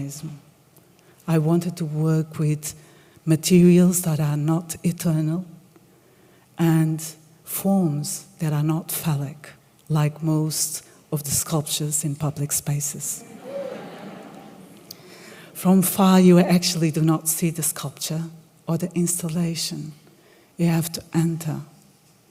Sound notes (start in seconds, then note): 13.2 laughter